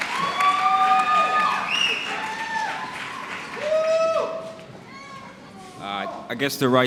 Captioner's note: applause